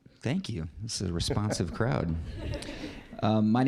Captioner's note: audience laughing